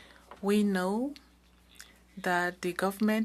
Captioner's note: speaking French